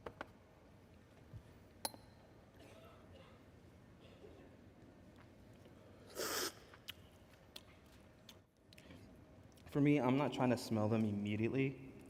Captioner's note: slurping